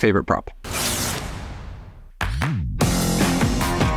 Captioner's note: electrics buzzing; vibrant music